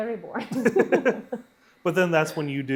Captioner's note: both laughing